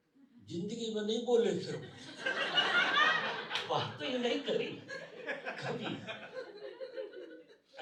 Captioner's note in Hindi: हंसी